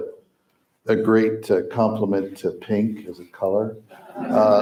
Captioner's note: crowd laughs